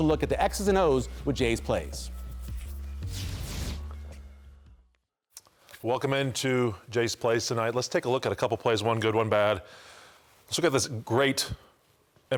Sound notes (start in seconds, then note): 3.0 swoosh